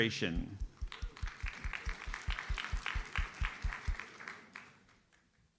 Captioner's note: audience applauds